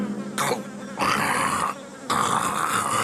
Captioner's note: snorting